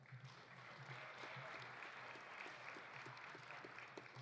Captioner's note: audience applauding